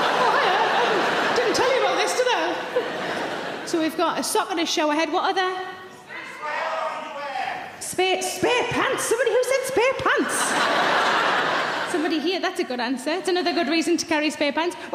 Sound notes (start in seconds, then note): 6.0 audience shouts answers; 10.2 audience laughs